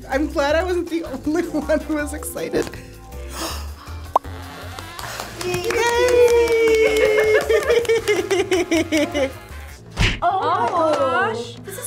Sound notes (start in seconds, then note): 2.7 bubble pops; 2.7 gasps; 6.3 both laugh